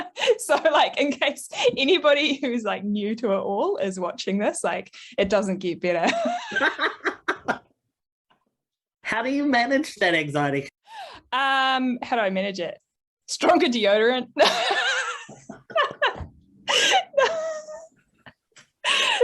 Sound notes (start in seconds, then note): 6.5 laughs; 16.6 both laugh